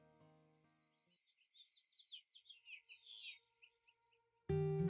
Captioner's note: birds chirping